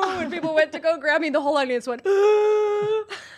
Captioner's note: gasp